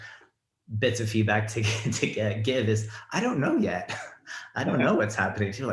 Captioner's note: laughs